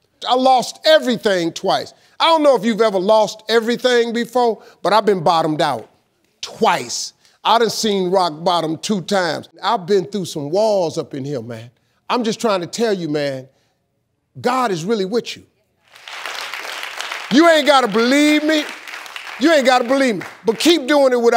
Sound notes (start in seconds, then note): 15.9 audience applauding